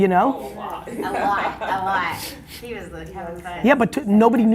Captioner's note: voices chattering; laughing